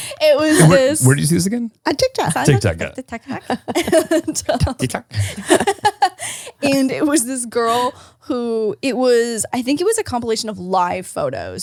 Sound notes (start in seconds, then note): 0.0 laugh; 3.2 laughs